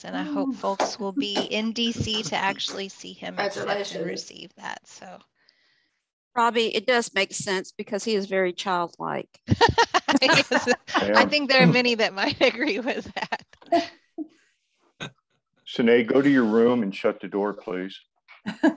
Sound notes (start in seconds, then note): 9.5 laughter; 18.4 laughter